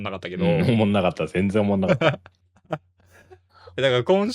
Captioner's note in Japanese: 笑い